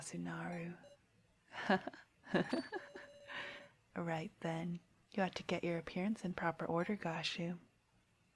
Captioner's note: laughter